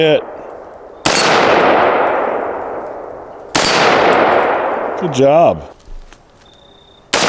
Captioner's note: gunshot